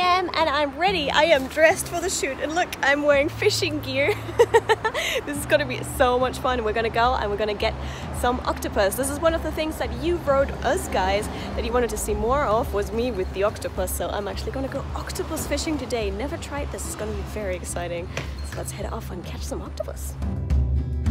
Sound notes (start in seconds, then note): 4.0 laughter